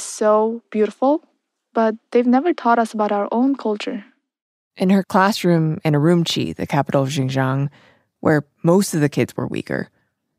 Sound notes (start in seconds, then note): none